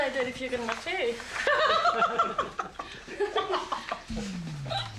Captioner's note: laughs